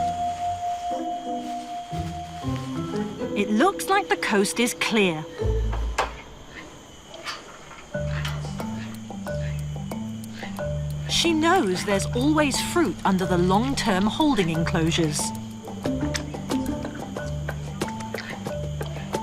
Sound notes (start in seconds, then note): 0.9 comedic music; 5.9 metal cage clunking; 7.9 bright upbeat music; 15.8 bright upbeat music